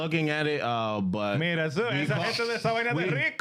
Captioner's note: speaking In Foreign Language